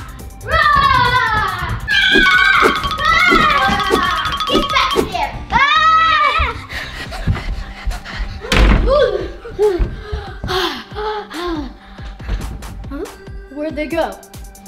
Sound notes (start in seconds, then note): 6.8 screams; 8.7 door slams; 9.8 Jester pants heavily